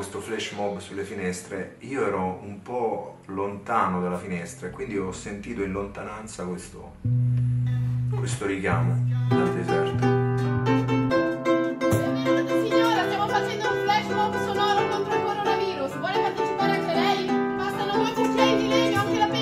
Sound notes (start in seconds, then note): 10.2 upbeat music; 12.4 speaking foreign language